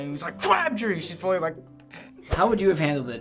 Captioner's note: stifles laughter